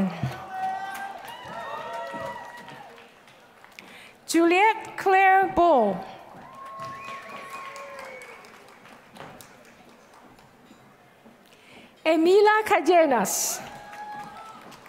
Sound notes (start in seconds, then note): 0.1 applause; 13.6 applause